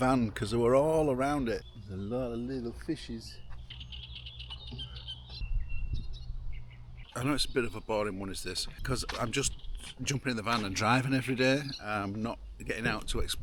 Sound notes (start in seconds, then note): 6.8 birds chirping